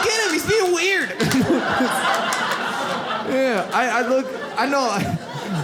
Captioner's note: audience laughs